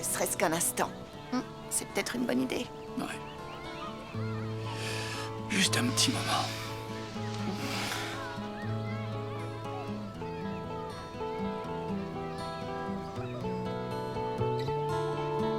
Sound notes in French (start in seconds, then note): 5.6 soupir; 8.2 musique douce